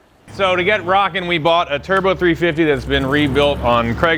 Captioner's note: engine revving